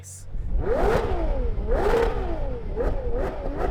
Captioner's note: engine revs aggressively